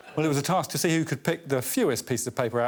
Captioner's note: all laughing